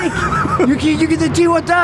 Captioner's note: laughing